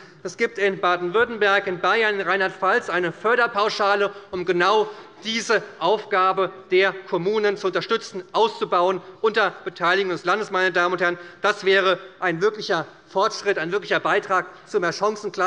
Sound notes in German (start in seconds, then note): none